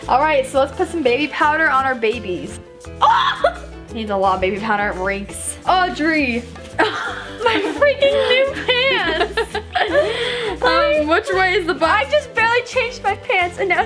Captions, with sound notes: - All right, so let's put some baby powder on our babies. (squeals) You need a lot of baby powder, it reeks. - Audrey. My freaking new pants. (laughs) I mean I just barely changed my pants and now